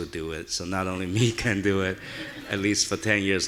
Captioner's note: audience laughing